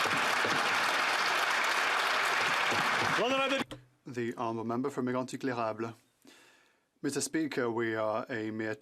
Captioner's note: some Applause